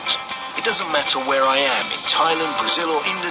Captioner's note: advert playing